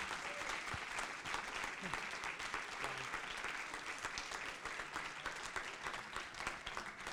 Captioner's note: applause and cheers